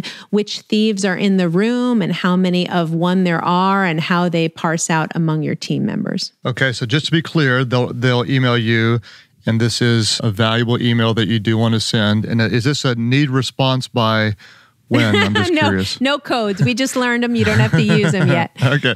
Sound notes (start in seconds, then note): 14.9 laughs